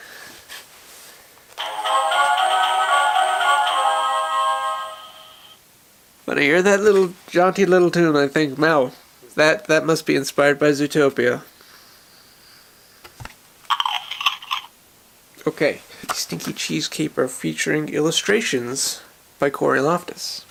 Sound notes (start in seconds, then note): 1.5 jaunty tune; 13.7 carrot being munched